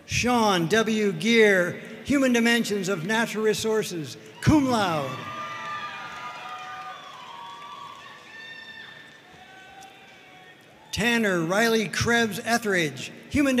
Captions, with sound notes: Sean W. Geer, Human Dimensions of Natural Resources, cum laude. (audience cheering and applauding) Tanner Riley Krebs Etheridge,